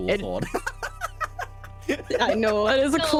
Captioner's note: laughter